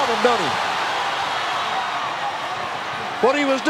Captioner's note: audience cheering